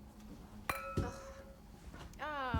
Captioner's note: wine glass clanging